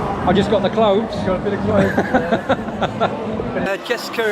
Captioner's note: laughs